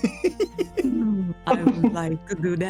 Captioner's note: laughter